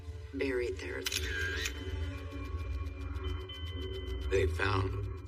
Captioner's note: camera shshutter clicks